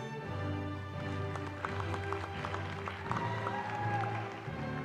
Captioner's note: applause